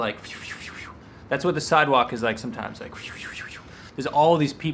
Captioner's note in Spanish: wush wush wush; wush wush wush